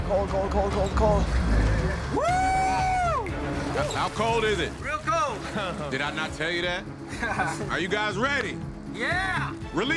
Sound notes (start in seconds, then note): 1.6 yells; 7.1 laughter